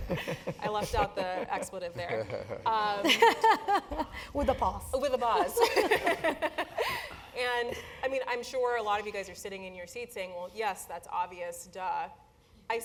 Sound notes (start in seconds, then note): 0.0 laugh; 5.9 laugh